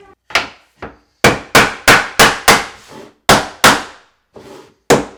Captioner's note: hammer pounding